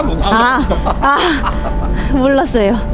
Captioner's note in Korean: 웃음